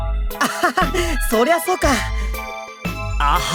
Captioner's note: laugh